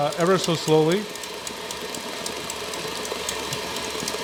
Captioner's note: mixer whirring